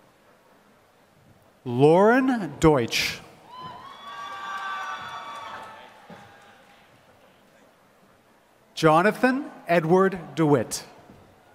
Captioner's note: applause